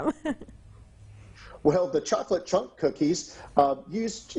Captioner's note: chuckles